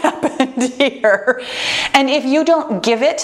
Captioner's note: laughs